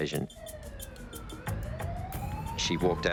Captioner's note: sirens wailing